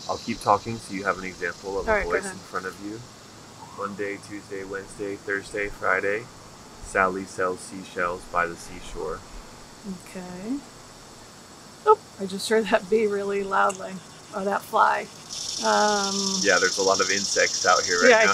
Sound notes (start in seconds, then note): 15.4 cicada chirping